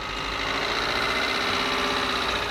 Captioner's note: engine noises